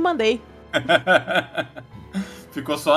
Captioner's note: laughs